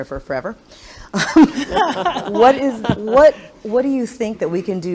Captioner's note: laughs